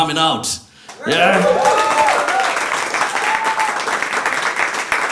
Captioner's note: cheering